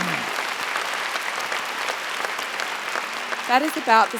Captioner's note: applause